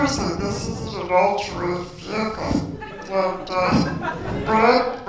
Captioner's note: giggles